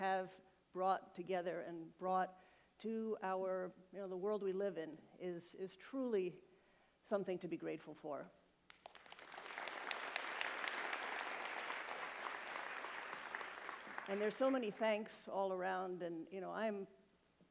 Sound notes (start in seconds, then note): 12.0 applause